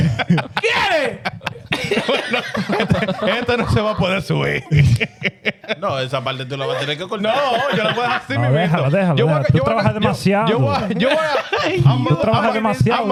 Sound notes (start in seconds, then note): 0.0 laughing; 0.6 speaking In Foreign Language